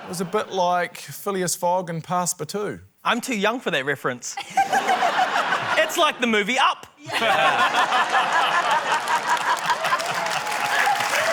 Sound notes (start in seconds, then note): 4.3 laughter; 7.8 applause; 7.8 laughter